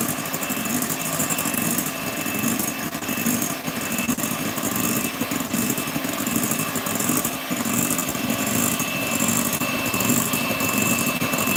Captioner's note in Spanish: ruido de batidora